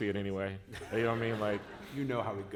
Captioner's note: laughter